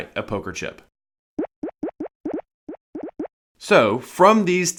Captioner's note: popping bubbles